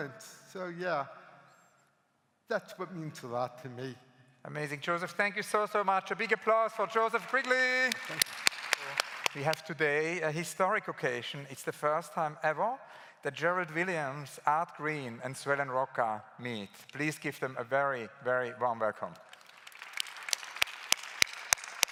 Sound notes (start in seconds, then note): 7.0 claps; 19.2 claps